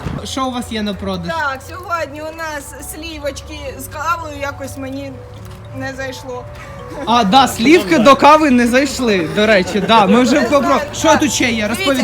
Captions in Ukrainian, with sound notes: -що у вас є на продаж? -так сьогодні у нас слівочки, з кавою якось мені не зайшло. (сміх) А да слівки до кави не зайшли до речі (сміх)